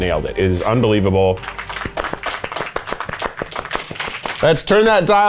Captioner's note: all clapping